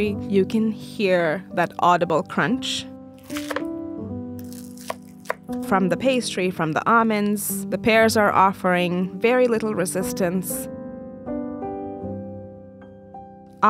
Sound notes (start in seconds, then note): 4.4 galette crunches; 11.7 soft piano music continues